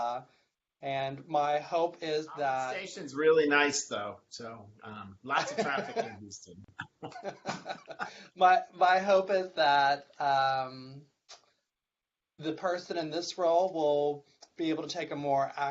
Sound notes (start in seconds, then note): 4.9 laughing